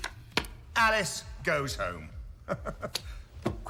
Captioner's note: laughs